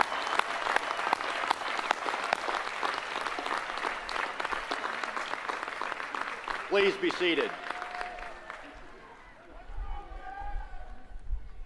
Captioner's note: applause